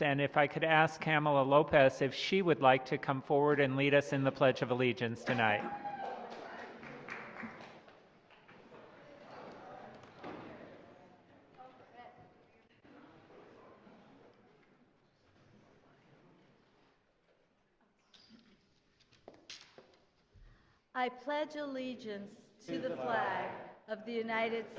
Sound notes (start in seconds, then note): 5.3 applause